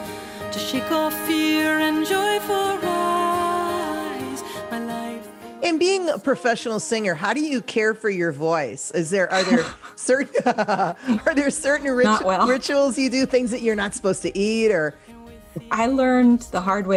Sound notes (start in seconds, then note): 9.3 laughs